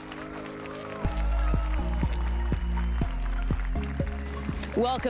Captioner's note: applause and cheers